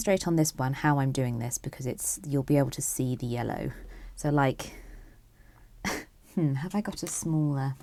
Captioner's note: chuckles